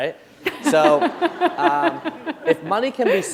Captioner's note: laughter